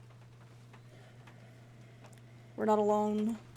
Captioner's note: breathing